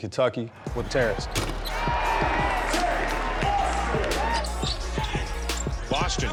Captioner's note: crowd yelling; shoes screeching